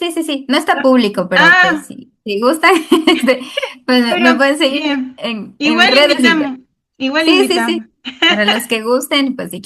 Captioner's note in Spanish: risas